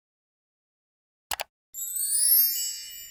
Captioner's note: clicking; bright tinkling